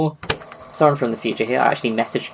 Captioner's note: tape recorder clicks on